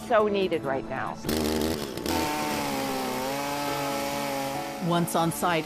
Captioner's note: chainsaws whirring